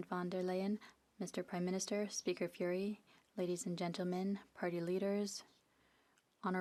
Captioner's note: speaking FRENCH